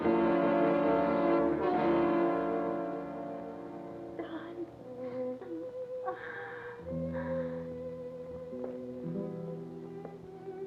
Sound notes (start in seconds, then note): 5.9 groans; 6.6 gentle sorrowful music